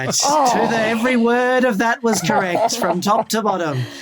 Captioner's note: groans into laugh